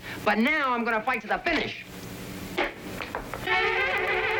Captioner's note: snapping